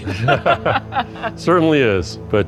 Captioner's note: laughter